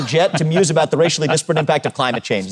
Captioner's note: laughs